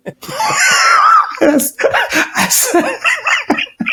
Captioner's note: laughing